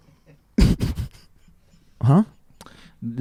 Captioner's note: laughing